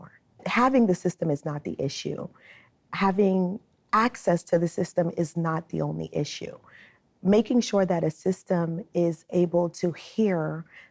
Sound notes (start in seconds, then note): none